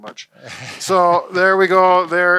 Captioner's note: chuckling